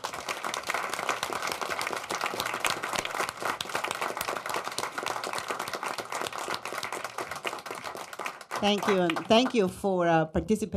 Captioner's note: applause